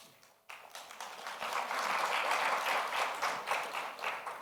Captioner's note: audience applauds